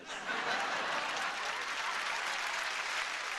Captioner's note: laughter and applause